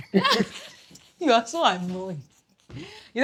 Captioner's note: laughs